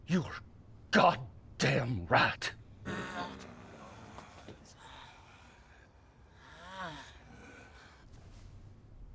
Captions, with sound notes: —You're GOD DAMN right! [moaning]